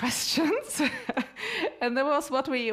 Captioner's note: laughs